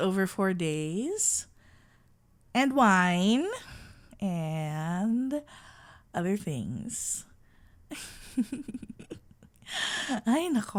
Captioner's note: playful sigh